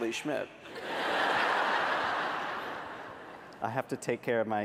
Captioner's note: laughter